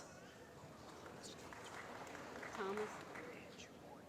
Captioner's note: applause